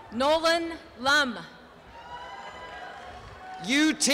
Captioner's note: applause and cheering